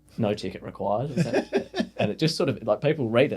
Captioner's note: laughing